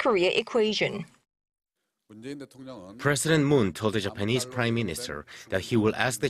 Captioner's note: Korean